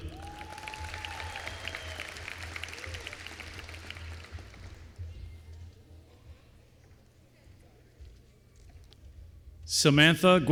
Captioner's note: applause